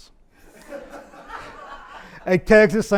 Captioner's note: audience laughs